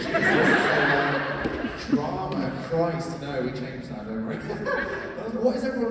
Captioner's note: laughs